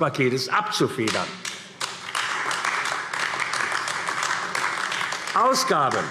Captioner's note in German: Beifall AfD